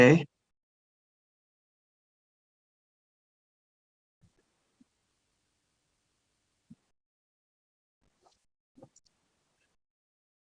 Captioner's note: silence